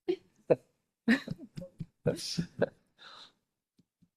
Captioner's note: group laughing